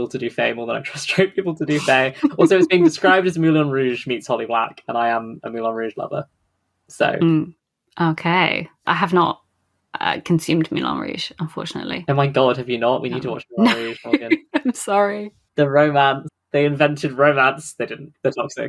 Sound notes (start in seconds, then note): 2.0 laughs; 12.4 laughing